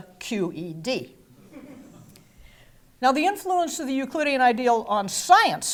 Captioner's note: laugh